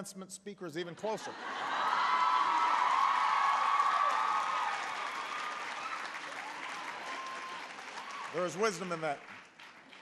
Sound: applause

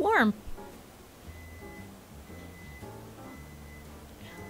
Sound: offscreen Microwave beeping that it's done

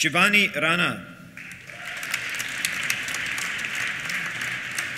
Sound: applause; cheers

